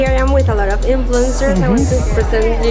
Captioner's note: laughing